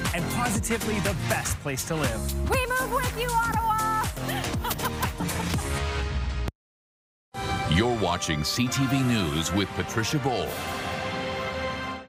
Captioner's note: laughter